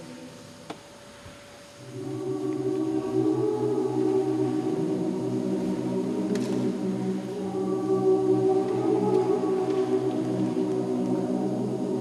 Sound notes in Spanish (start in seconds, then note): 1.9 boca cerrada mmm mmm